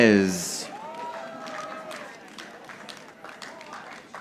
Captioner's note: audience applauding